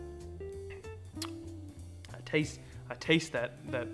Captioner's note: smooth jazz music; lips smack